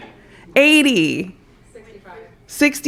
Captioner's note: laughter